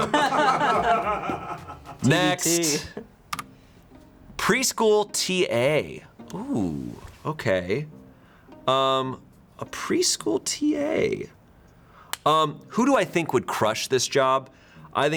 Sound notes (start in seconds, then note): 0.2 crew members laughing; 3.3 quirky intriguing music; 3.3 button clicks